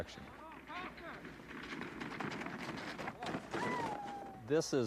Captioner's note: sled clanging